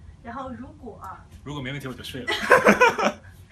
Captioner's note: laughs